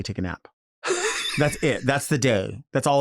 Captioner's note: Nymphia laughing